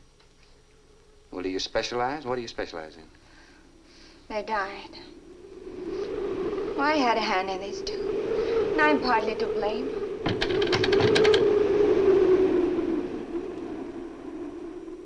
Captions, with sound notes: Well, do you specialize? What do you specialize in? - Their diet. (muffled wind howls) Oh, I had a hand in this, too. And I'm partly to blame. (window shutters rattle)